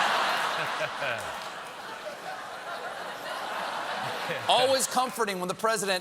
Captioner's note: laughter